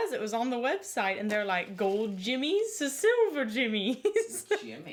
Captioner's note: laughs